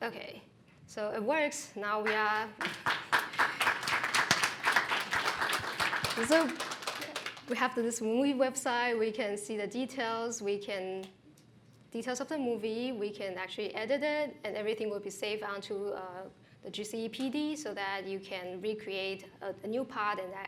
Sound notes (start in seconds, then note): 2.0 applause